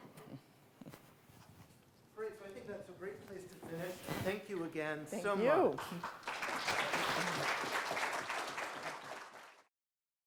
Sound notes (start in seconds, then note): 5.8 audience applauding